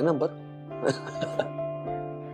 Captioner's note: chuckling